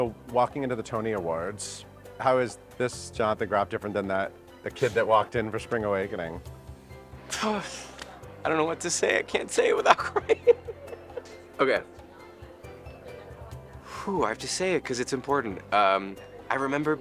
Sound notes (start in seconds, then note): 7.2 exhales; 9.7 chuckles; 13.8 exhales